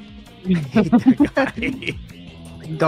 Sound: laughs

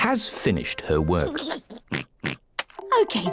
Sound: giggles and oinks

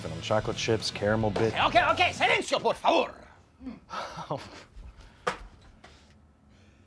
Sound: speaks foreign language

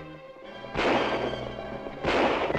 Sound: gunfire

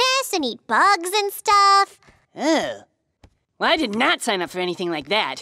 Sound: none

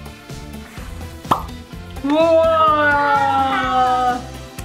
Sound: bubble pops

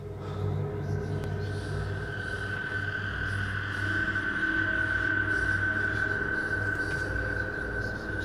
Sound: ghostly whispering

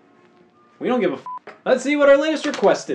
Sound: beeps

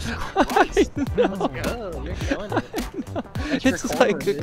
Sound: laughing

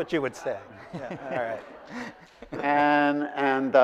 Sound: laughing

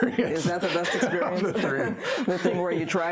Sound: both laugh

